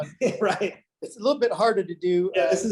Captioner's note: laughs